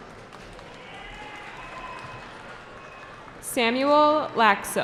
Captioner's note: cheering